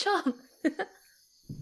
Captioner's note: laughs